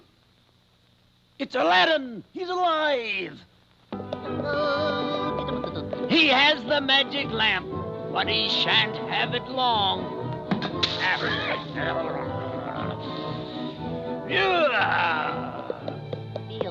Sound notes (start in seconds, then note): 4.2 Popeye humming; 5.3 horse clopping; 11.1 tea splashing; 11.1 vizier groaning; 14.4 vizier grumbling; 15.5 horse clopping; 16.5 Popeye humming